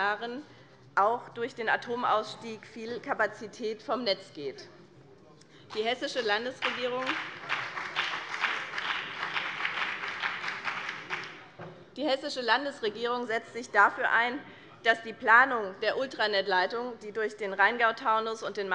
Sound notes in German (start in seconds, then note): 5.7 Beifall BÜNDNIS 90/DIE GRÜNEN und CDU